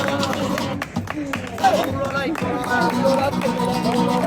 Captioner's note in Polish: aplauz